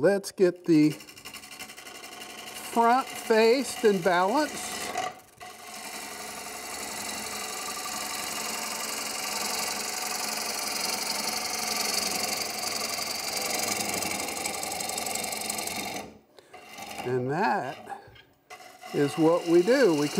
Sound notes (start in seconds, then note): 4.9 tools buzzing